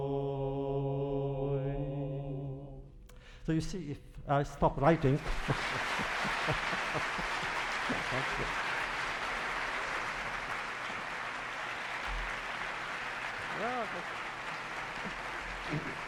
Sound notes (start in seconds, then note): 5.0 applause; 9.0 laughs